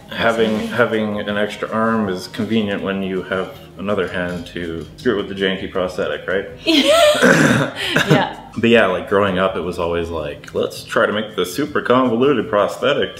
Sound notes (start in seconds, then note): 6.7 laughing